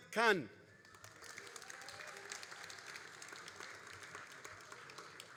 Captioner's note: all applauding